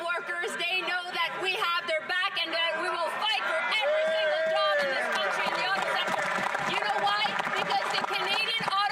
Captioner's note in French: voix de l'interprète